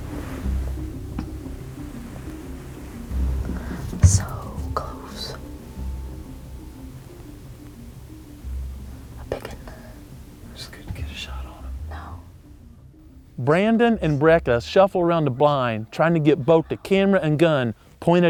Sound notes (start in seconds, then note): 4.0 whispering